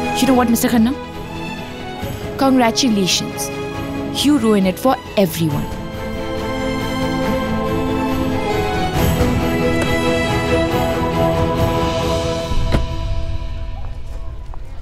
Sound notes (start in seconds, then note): 9.6 Car door opens; 12.6 Car door closes